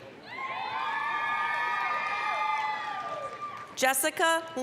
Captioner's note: applause, cheering